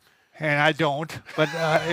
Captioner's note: chuckles